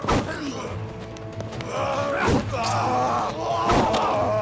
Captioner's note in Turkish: Bağırıyor